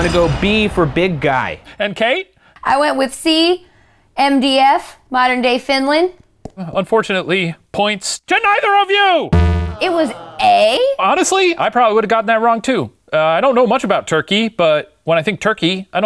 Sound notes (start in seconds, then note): 9.4 buzz; 9.7 audience groan; 9.7 yells